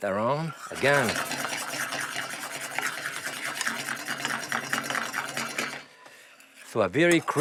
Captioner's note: clattering